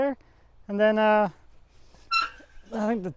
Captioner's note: gate squeaks